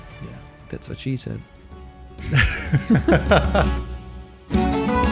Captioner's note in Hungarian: laughter